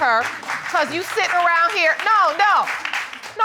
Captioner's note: applause